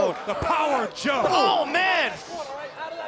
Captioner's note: crowd chatter